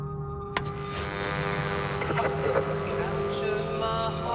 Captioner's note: radio crackles